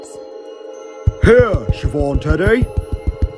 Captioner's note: footsteps